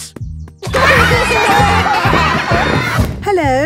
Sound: laughter

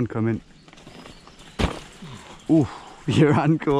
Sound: loud thud

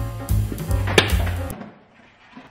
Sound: yogurt thuds; music stops abruptly

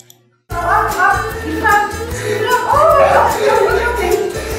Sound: children frolicking

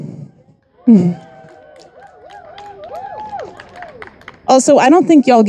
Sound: audience applauding and cheering

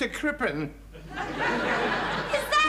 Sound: audience laughing

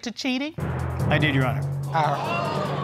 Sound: audience exclaiming

